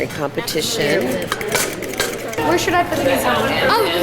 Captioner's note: stirring